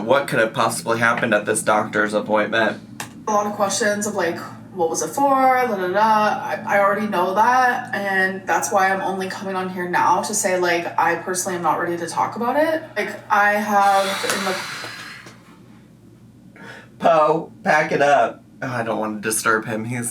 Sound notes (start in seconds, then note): 13.9 sighs